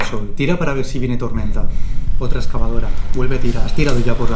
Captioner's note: hyperventilation